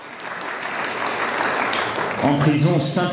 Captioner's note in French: applaudissements